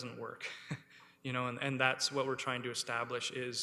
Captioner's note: chuckles